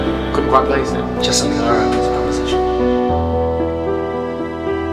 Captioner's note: voice echo